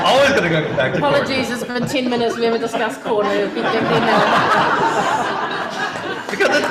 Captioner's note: audience laughter